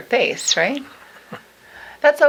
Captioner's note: laughing